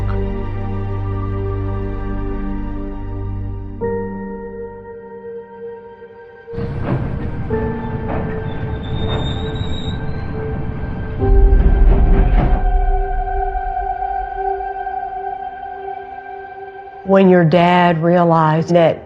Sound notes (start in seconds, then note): 6.5 somber music playing; 10.3 train screeching